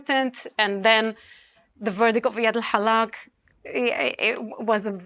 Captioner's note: speaking hebrew